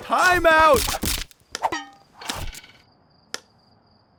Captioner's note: weapons thudding